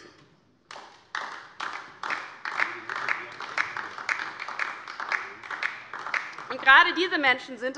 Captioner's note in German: Beifall DIE LINKE